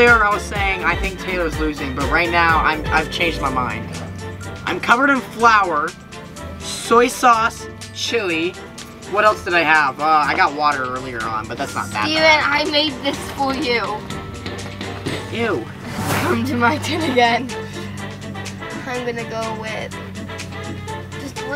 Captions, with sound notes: earlier I was saying I think Taylor's losing but right now I've changed my mind. I'm covered in flour, soy sauce, chili. What else did I have? I got water earlier on but that's not that bad. - Steven, I made this for you. - Ew. (air whooshing) - Come to my turn again. I'm gonna go with this blue one.